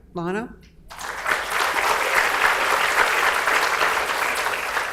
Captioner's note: audience applauds